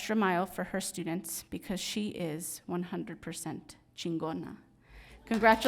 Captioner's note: speaks in foreign language